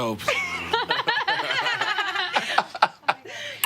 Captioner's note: all laughing